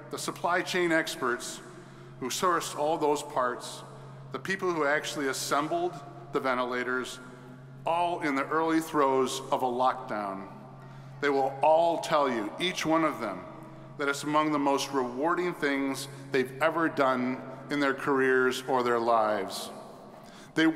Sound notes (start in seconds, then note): none